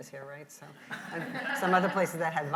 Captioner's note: audience laughs